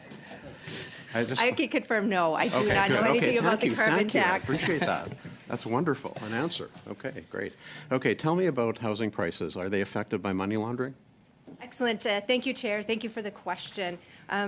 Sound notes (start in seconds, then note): 4.4 laughter